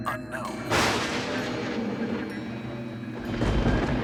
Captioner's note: thunder crashing